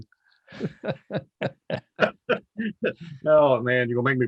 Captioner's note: laughing